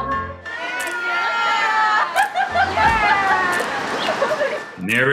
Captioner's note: applause